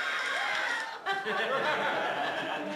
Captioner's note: laughter